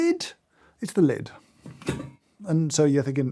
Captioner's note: lid clangs